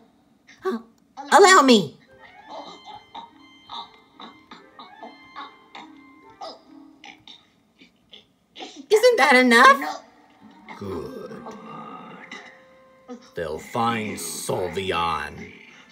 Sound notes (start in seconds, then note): 3.6 Skull Kid gagging